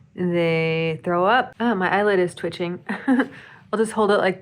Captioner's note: chuckles